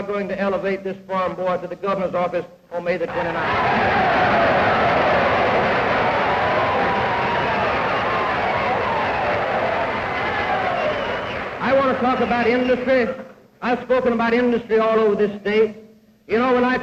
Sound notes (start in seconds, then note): 3.1 cheers, applause